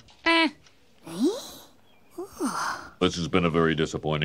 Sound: gasping

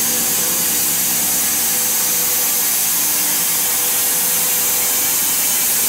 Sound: whirring continues

